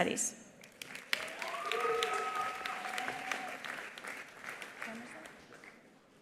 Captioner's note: attendees applauding; attendees cheering